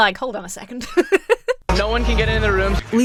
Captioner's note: laughs